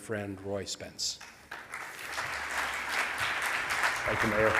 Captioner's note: audience applauds